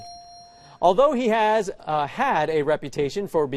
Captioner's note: buzzer